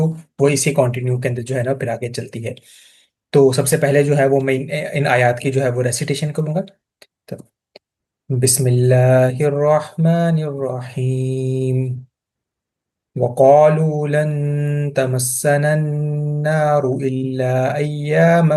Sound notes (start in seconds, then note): 6.8 recitation, Bismillah